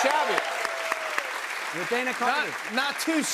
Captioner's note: cheers and applause